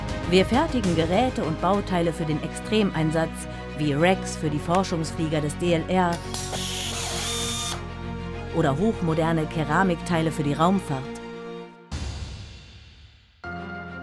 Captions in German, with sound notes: Wir fertigen Geräte und Bauteile für den Extremeinsatz, wie Racks für die Forschungsflieger des DLR [Bohrer surrt] oder hochmoderne Keramikteile für die Raumfahrt.[dramatische Musik spielt weiter]